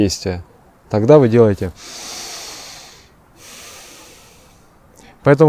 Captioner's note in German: atmet ein